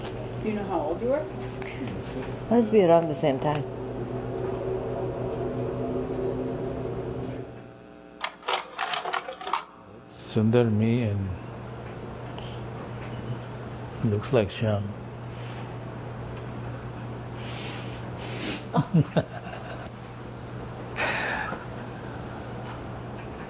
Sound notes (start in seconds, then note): 8.2 slide carousel sound; 18.7 laughter